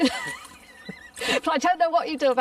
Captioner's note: both laughing